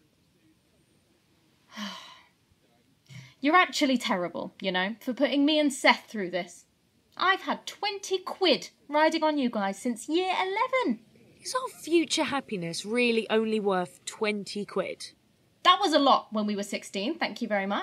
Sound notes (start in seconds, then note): 1.7 sighing